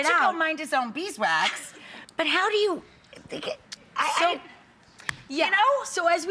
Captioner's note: stammers